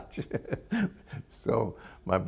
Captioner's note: laughter